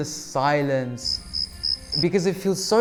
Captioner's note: crickets chirping